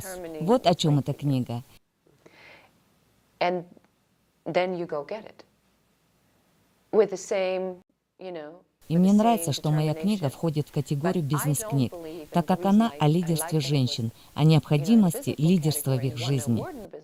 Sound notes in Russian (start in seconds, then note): 2.4 Разговаривают на английском